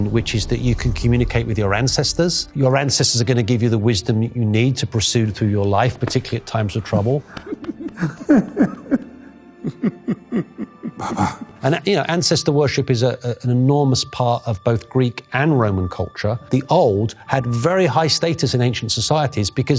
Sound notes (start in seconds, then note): 7.2 T'Challa and T'Chaka chuckling